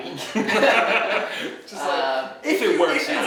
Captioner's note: laughing